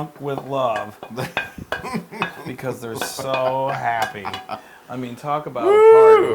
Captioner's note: laugh